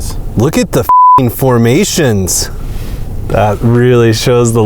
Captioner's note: beep